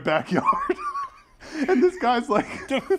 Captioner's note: laugh